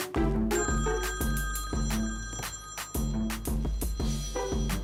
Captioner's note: phone ringing